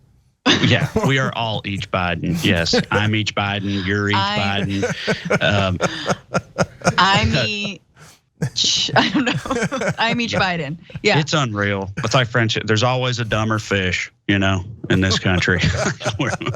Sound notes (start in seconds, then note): 0.2 laugh; 5.9 laugh